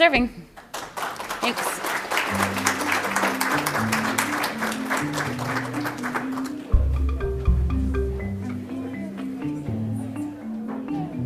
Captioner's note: applause